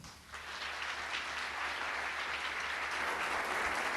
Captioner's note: audience clapping